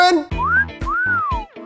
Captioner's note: whistles